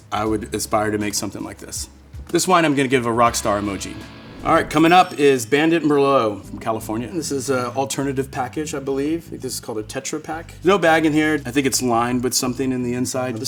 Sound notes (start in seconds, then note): 2.3 bell dinging